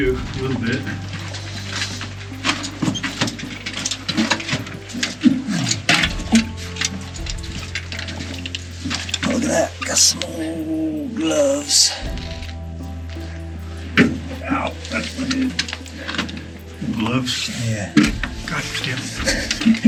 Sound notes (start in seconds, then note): 3.5 equipment creaking; 3.5 footsteps crunching; 13.9 hardhat thuds; 18.5 laughs